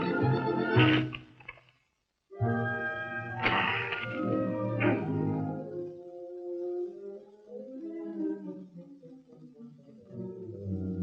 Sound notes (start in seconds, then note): 3.2 groaning; 6.0 orchestral music